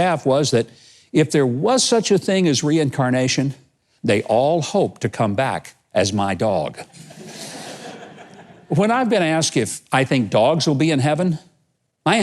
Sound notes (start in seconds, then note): 7.0 audience laughing